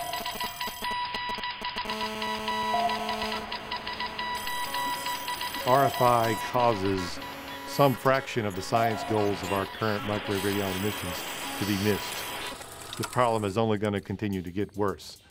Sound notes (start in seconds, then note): 0.2 digital audio cellular interference; 3.6 cacophony of all types of RFI